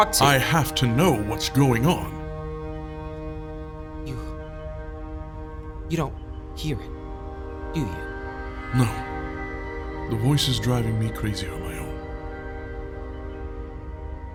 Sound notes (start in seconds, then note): 4.0 confused